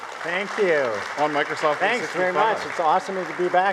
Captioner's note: audience applauding